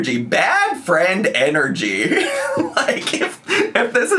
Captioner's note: laughs